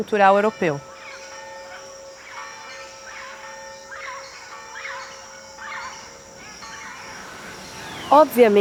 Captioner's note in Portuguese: pássaros piam